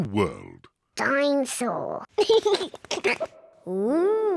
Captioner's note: giggles